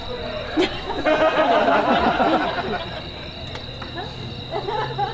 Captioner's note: audience laughs